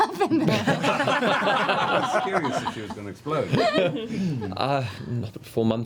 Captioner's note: laughter